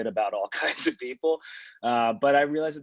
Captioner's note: chuckles